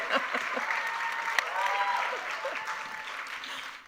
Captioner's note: applause